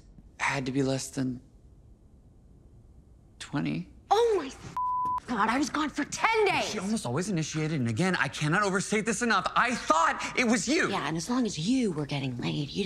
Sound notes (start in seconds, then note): 4.7 beep